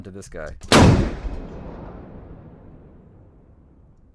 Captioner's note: gunshot